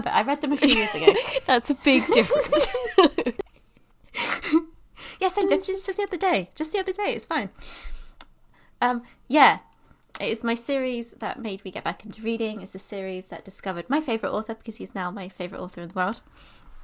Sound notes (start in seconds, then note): 0.6 laughing